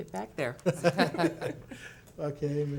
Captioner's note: laughs